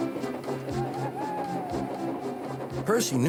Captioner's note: toot toot; owl hoots